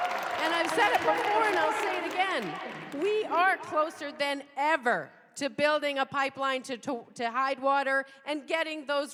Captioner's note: cheers and applause